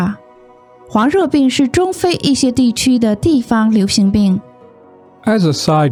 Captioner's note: explaining the example in Chinese